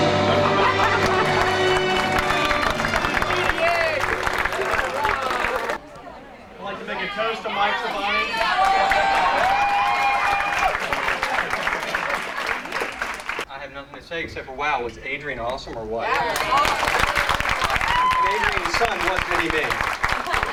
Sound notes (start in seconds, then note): 9.7 cheering -clapping; 16.1 clapping